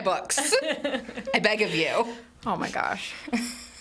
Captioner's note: laugh